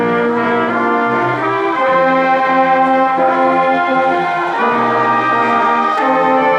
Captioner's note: ceremonious music continues; crowd cheering and applauding